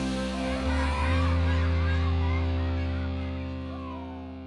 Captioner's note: kids cheering; energetic upbeat music fades